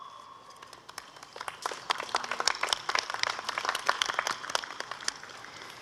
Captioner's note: applause